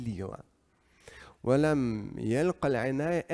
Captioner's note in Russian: Говорит на арабском